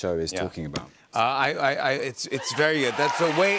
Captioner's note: cheers and applause